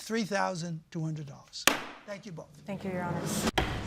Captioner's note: gavel strikes